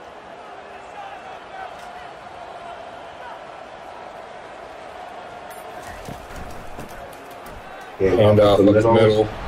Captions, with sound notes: (crowd cheering) - Hand off, look at this middle.